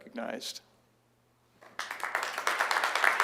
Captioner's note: applause